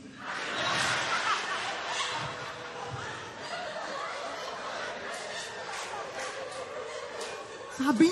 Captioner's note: laughter